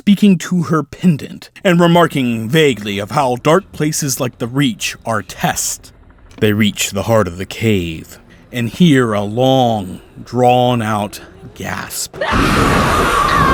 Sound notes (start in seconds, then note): 12.1 screech